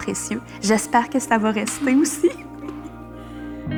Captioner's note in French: Rires